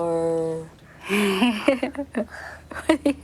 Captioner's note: laughs